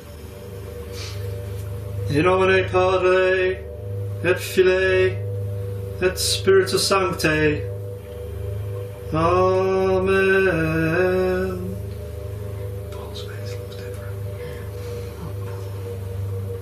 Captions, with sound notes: (tense music) (talking in foreign language) - Amen. - Paul's face looks different. - Yeah. Oh Paul.